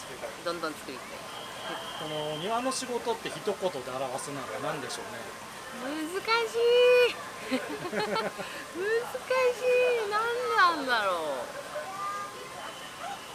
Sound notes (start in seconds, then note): 7.4 laughs